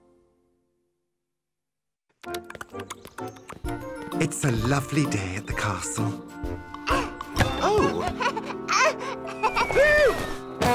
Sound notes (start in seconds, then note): 2.2 clip-clopping; 7.5 giggling